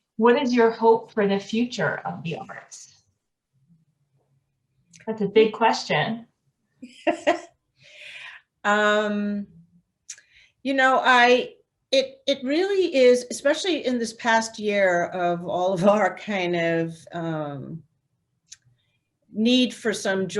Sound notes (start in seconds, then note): 6.8 laughs